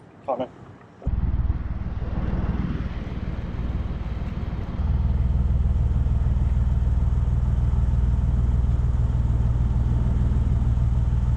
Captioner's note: narrowboat engine sound